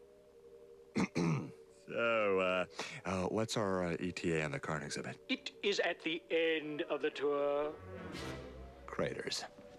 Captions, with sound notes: [CLEARS THROAT] OH, UH, WHAT'S OUR ETA ON THE KARN EXHIBIT? IT IS AT THE END OF THE TOUR.